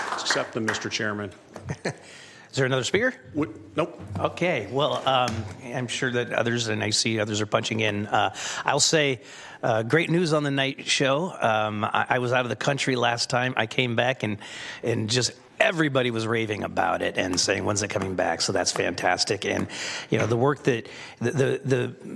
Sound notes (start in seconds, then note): 0.0 applause